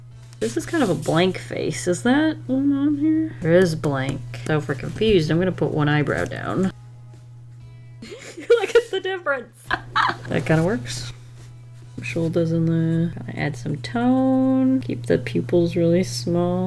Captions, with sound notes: This is kind of a blank face, is that one on here? There is blank so if we're confused, I'm gonna put one eyebrow down. Look at the difference! [Laughs] That kind of works. The shoulders in there, add some tone. Keep the pupils really small.